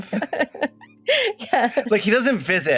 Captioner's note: laughs